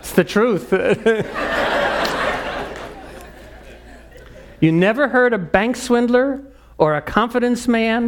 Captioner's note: laugh